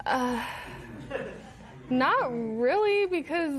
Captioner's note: laughter